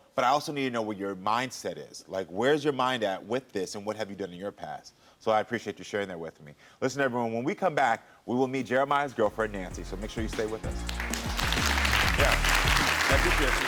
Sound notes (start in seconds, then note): 10.4 audience applauds